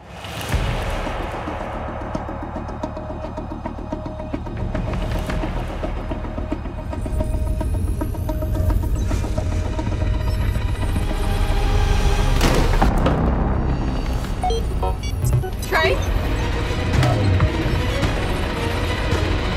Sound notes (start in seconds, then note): 0.1 intense music; 14.3 Tre beeping